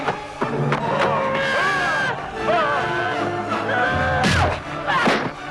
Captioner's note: villager roars